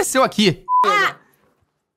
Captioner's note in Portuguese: som de bipe